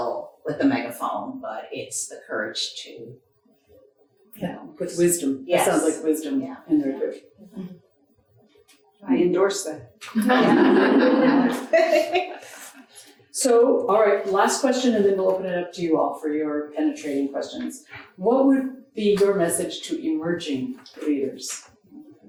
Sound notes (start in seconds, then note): 10.2 audience laughing